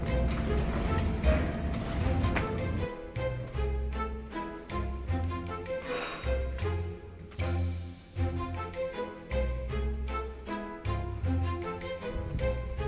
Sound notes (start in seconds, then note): 1.9 mischievous music; 6.0 bell ringing